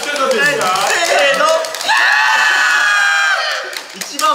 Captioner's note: screams